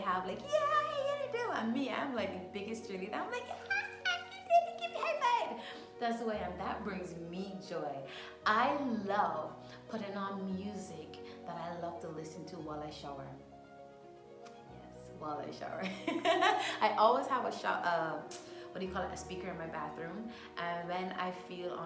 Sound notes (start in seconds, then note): 15.8 laughter